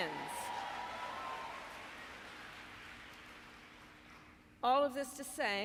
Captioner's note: applause